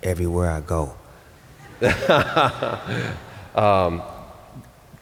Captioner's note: laughter